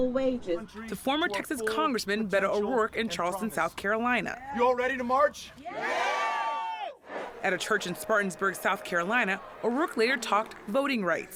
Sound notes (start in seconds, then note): 5.7 cheering and applause